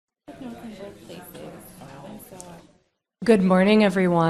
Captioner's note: crowd discussing